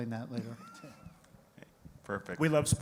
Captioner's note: giggles